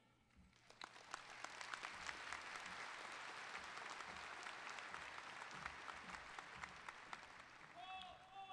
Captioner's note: applause